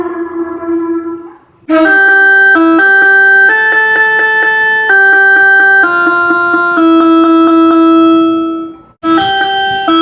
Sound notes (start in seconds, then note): 1.6 air Horn + Music Horn